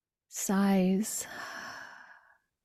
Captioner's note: long sigh